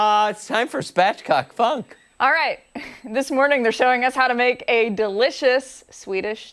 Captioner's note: laughter